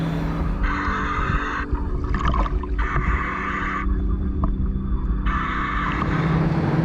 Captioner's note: gentle music continues; mouthpiece hissing; motor droning